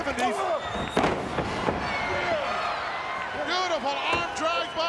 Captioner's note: Repo Man thuds